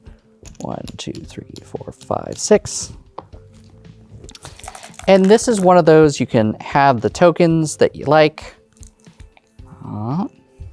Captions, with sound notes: 1, 2, 3, 4, 5, 6. And, this is one of those (dice rattling) you can have the tokens that you like. (dice rolling) Um...